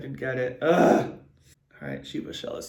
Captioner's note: grunts